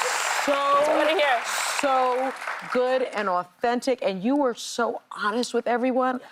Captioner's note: applause